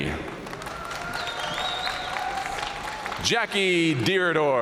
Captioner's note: audience cheering and applauding